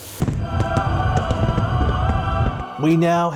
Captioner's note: fireworks exploding